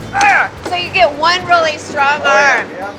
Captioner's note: laughs